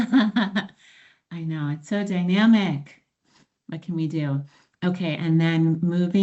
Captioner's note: laughs